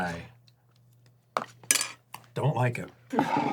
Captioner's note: spoon drops